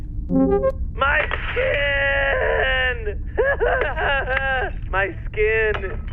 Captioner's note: sobbing